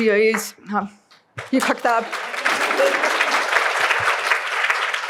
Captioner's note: applause